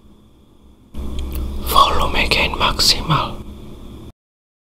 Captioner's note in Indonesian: berbisik